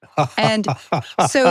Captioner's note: laughing